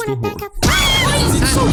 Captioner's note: screaming; mimi roars